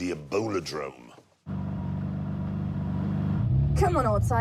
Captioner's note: engine revs